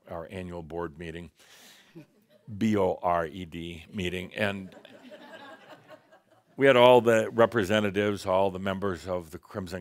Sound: some laughter

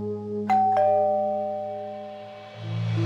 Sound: doorbell

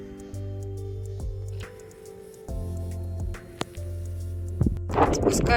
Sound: the buzzing of a bumblebee

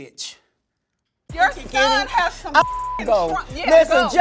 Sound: beep

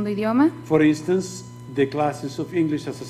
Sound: speaking foreign language

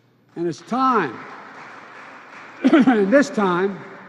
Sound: applause

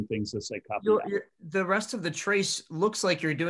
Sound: calm Voice

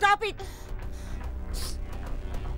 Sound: exhales; sniffles

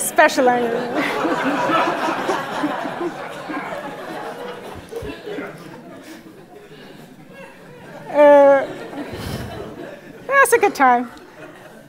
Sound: laugh

